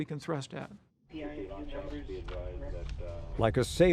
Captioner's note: navigators chattering